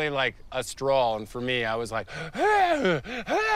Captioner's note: yells